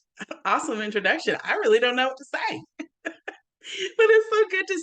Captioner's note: chuckles